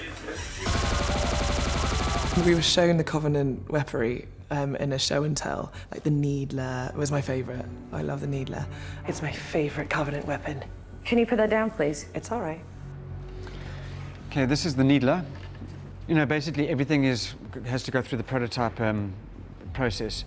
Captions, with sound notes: [weapon shoots rapidly] When we were shown the Covenant weaponry in the show and tell, like the Needler was my favorite. I love the Needler. It's my favorite Covenant weapon. - Can you put that down please? - It's all right. Okay, this is the Needler. You know, basically everything has to go through the prototype process.